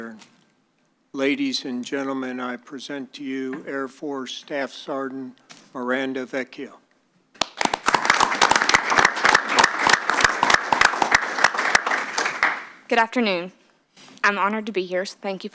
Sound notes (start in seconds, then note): 7.4 applause